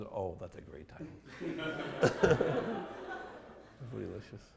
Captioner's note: laughter